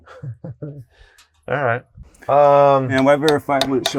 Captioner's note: chuckles